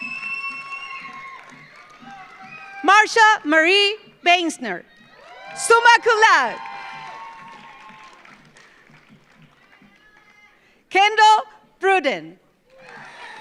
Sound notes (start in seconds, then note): 0.0 audience applauds; 0.0 audience cheers; 6.5 audience applauds; 6.5 audience cheers; 12.7 audience applauds; 12.7 audience cheers